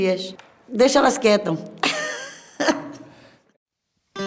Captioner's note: laughs